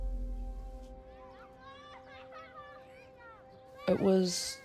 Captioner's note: children's laughter echoes